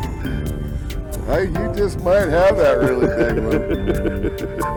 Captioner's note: laughter